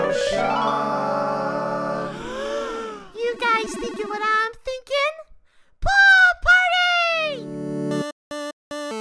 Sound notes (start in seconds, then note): 1.2 gasping